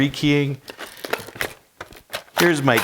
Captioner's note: metal rolling